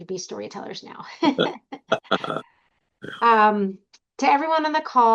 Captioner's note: laughing